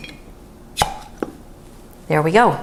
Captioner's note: pop